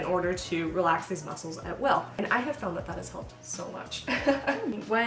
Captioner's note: laughs